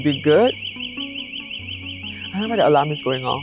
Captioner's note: alarm blaring in background